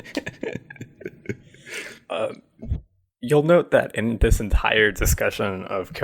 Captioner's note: laughs